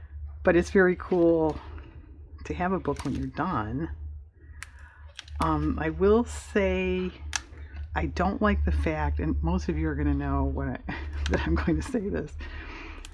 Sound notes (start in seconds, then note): 10.8 laughs